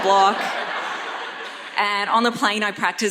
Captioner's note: audience laughs